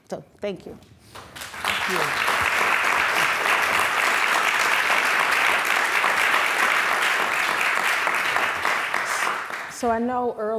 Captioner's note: applause